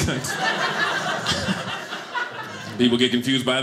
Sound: audience laughing

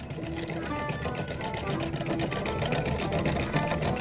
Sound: winch clicks

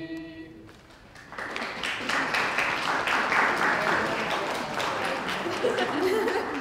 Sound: applause

